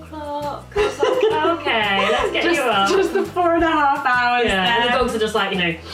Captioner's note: laughing